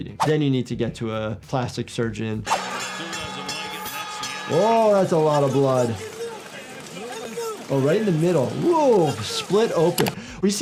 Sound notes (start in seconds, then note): 2.5 bell ringing